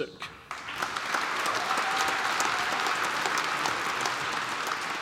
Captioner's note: applause